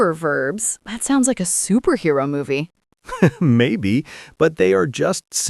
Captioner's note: laughs